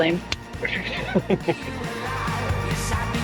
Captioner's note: chuckles